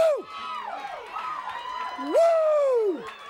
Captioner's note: crowd cheering